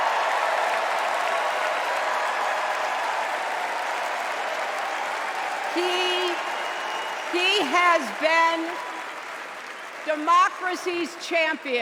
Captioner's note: cheers and applause